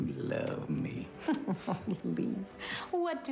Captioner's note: laughs